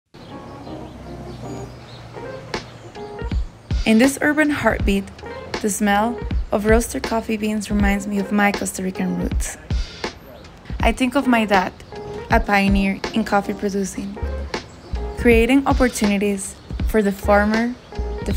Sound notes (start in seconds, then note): 0.1 birds chirping; 0.1 smooth chill-hop music